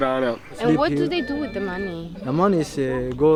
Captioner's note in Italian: Inglese